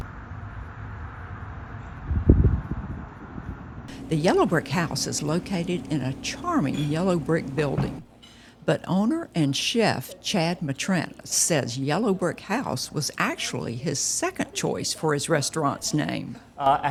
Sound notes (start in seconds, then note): 3.6 wind whistling